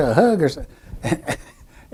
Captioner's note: laughs